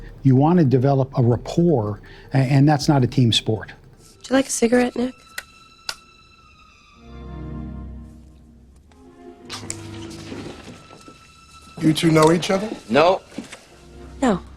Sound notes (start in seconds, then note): 6.8 dramatic music; 9.7 scoffs